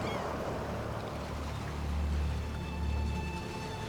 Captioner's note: seagulls cawing; truck rumbling; tense music